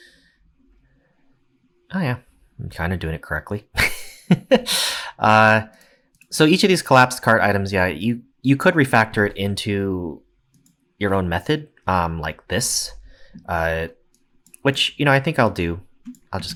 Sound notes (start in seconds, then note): 4.2 laughs